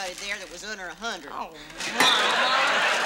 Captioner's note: audience laughs